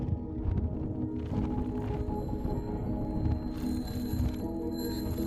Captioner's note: bicycle bell ringing